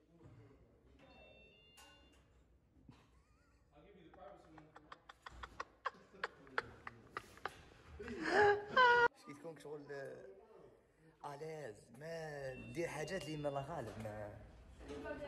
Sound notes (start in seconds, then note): 5.6 laughter